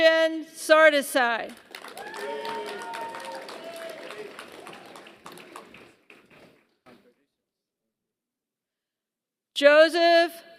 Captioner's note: applause